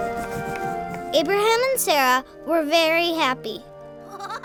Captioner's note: voiceover